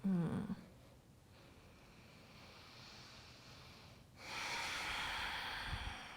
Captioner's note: breathing